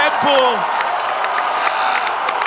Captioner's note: crowd cheering